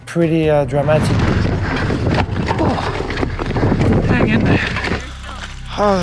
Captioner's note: air whooshing drowns speech